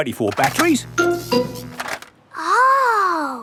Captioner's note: buzzing